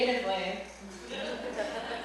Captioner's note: laughter